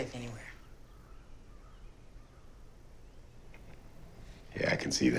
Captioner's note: birds cawing